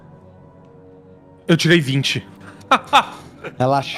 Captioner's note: laughs